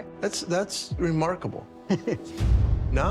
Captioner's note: chuckles